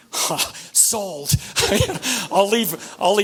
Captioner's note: laughs